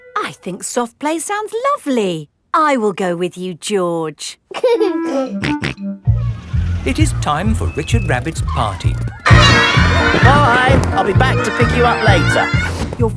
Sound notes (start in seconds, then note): 4.8 giggling and snorting